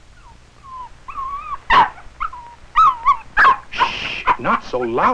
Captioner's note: excited barking and whimpering